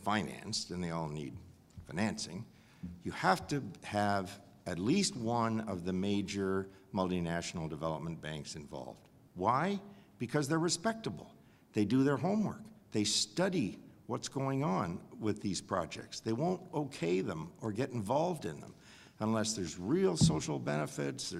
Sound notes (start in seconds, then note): none